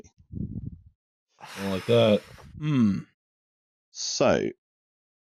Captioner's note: someone breathes out a poof of air